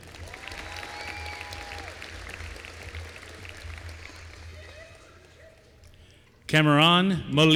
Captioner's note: applause